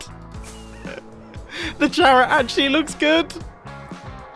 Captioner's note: laughs